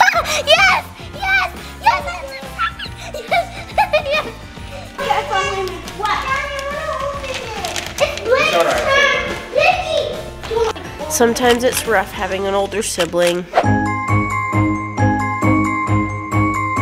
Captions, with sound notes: - Yes, yes, yes! (giggling) (overlapping chatter) - Sometimes it's rough having an older sibling. (upbeat music)